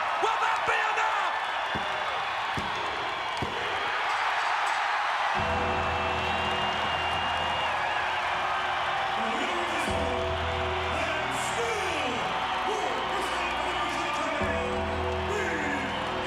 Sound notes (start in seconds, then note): 8.2 applause